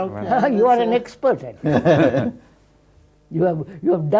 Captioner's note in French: Rires